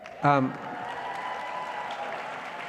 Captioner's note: cheering